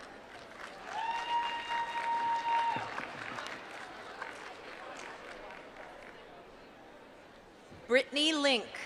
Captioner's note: applause